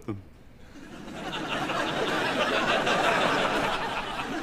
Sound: audience laughs

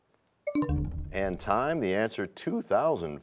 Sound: bell chimes, time expires

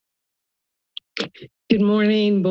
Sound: mic thumps

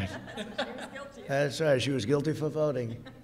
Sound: laughter

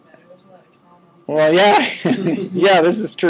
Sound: all chuckling

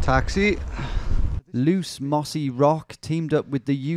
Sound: voiceover

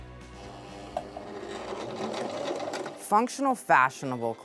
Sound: sound of sewing machine

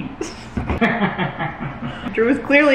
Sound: laughs

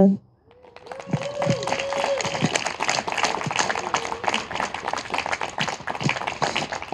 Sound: audience applauding and cheering

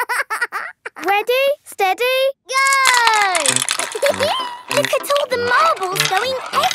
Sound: laughing; laughing

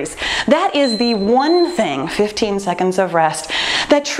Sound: timer beeping

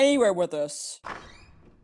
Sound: door opens

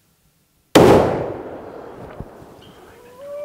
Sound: gunshot

